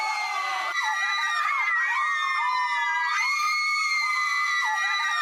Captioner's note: screaming